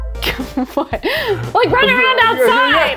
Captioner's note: laughs